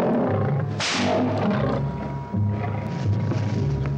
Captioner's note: whip cracks